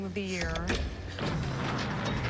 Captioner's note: clunking